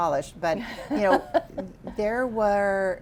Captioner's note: laughing